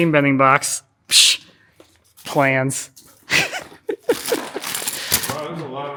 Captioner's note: laughs